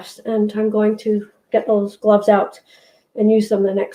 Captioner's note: none